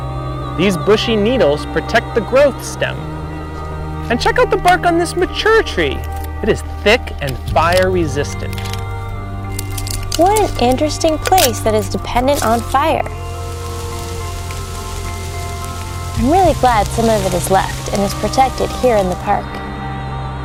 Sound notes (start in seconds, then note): 12.3 fire burning